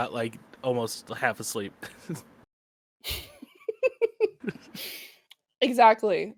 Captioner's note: laughter